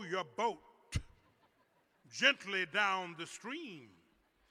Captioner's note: laughter